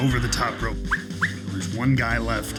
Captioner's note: whistling